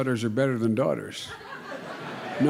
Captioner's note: laughter